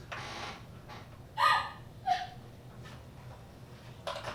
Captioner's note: Phoebe cries